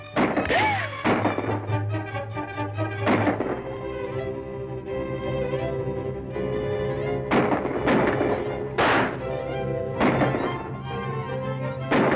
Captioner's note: gunshots firing